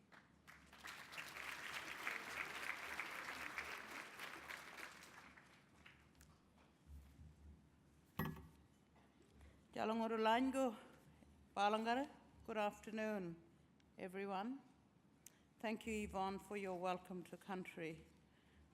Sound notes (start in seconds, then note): 0.0 applause; 10.8 speaks in language